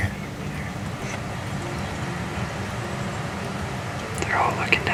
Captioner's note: light wind